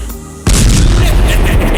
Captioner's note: explosion; count bleck laughing